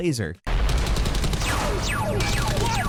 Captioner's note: lasers fire